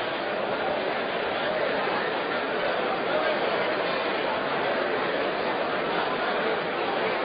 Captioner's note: crowd noise